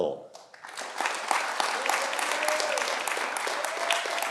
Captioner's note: audience applauding